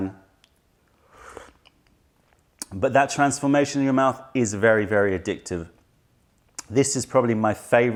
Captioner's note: sips tisane